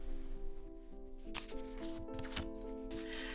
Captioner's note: paper rustle